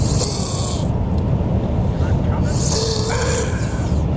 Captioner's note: grunting